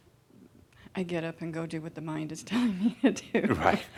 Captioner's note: she chuckles